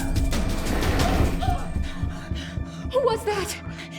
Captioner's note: women screaming; dramatic music; women breathing heavily